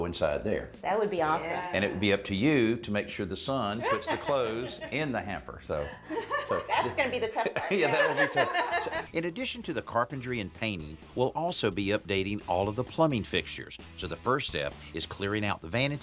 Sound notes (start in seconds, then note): 5.8 laughs; 8.9 laughter